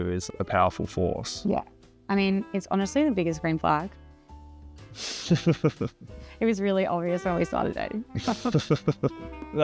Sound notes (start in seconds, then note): 5.1 Darcy laughs